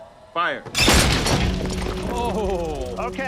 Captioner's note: metal clanking